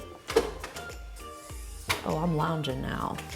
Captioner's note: chair clunks